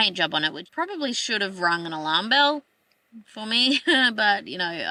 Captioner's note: scoffs